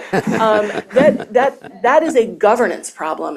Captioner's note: chuckles